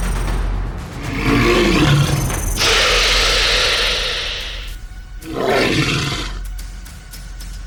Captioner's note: snake growls; snake screeches